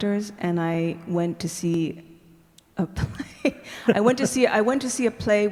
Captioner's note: laughing